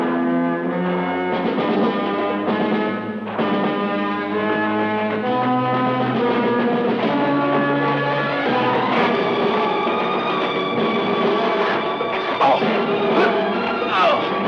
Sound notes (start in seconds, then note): 10.3 Vic groans